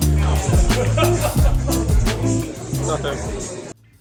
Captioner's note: laughter in the background from the game on TV